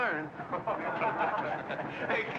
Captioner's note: men laugh